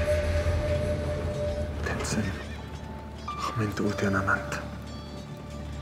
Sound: speaking in foreign language

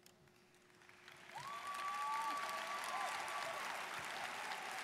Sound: students applauding

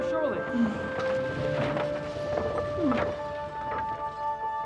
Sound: sounds of debris being moved

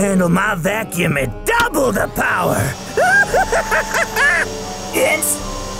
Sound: laughs

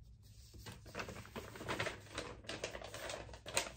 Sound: paper rustling

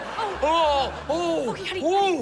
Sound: groaning

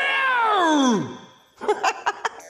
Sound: laughing

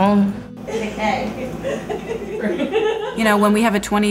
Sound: ambient noise, chatting, laughter

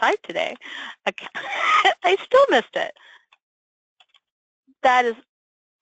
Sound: laughs

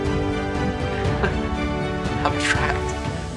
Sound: laughs

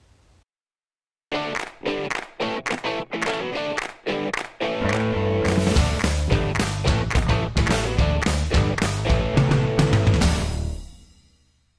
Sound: claps

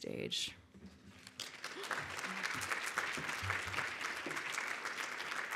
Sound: audience applauds

